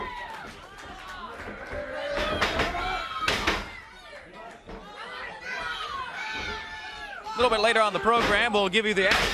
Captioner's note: crowd cheering; crowd chatter